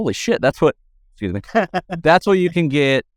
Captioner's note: laughs